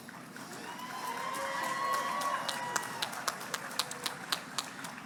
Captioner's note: crowd cheers and claps